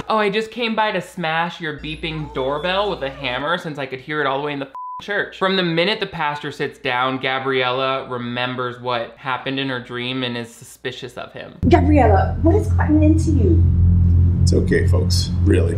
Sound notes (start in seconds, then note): 4.7 beep